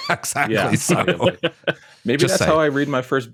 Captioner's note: laughter